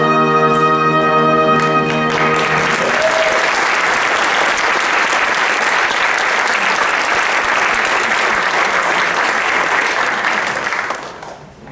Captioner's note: applause